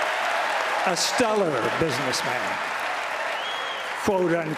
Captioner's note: applause; applause